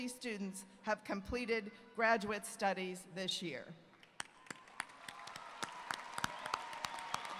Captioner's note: applause